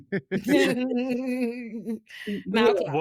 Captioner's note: laughing